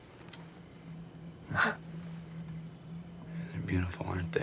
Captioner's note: crickets chirping; Lucy laughs